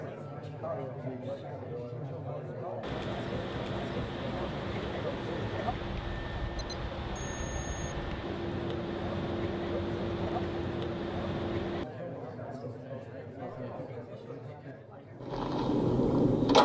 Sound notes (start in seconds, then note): 6.6 digital beeps; 11.6 crowd chatter